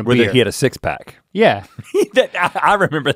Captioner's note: guffaws